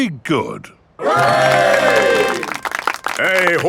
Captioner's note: clapping